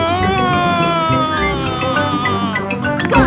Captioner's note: screaming